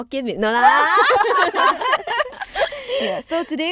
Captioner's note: girls laughing